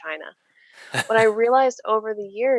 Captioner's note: laughing